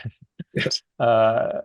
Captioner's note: laughing